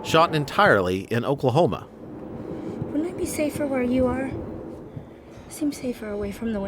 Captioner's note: wind howling